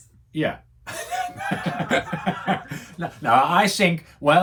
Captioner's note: laughs